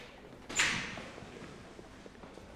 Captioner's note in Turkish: Kapı açılma sesi